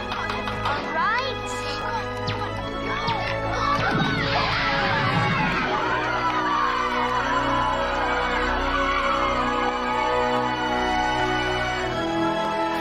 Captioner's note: cheering